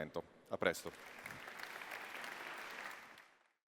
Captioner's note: applause